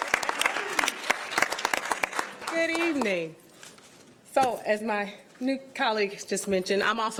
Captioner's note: cheering; applause